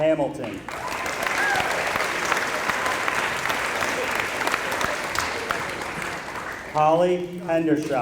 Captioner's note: applause